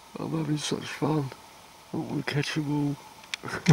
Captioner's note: laughter